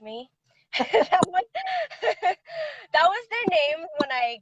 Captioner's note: laughing